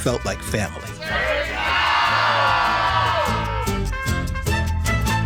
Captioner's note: group shouting in Spanish